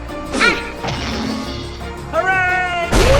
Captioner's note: crash